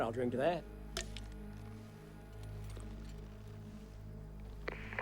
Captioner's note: cans clink